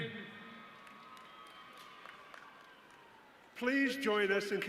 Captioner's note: audience cheering